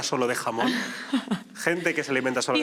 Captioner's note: laughs